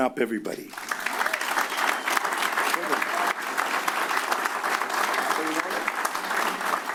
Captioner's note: applause